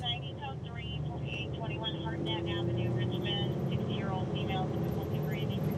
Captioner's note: dispatcher talking